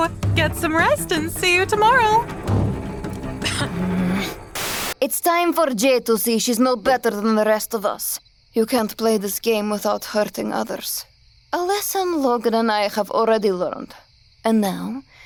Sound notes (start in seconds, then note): 3.2 Jade scoffs; 3.4 Anastasia grumbles